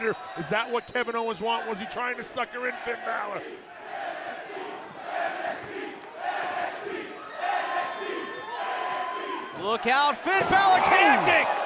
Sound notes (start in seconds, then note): 5.7 fans chanting